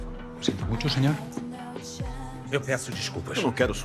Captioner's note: in Spanish; in English